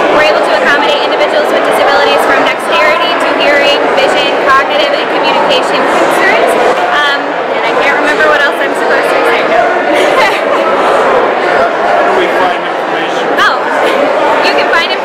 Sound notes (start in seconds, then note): 9.8 giggles